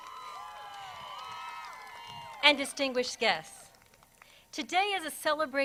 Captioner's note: crowd cheers